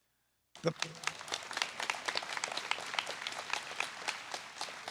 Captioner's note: audience applauds